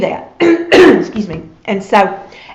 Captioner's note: coughs